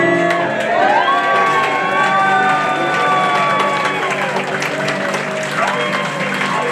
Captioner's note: jaunty piano music; audience cheering; audience applauding